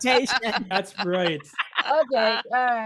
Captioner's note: laughter